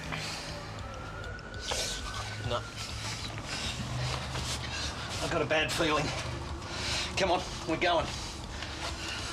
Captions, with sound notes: (sirens wailing) - No. I got a bad feeling, come on, we're going.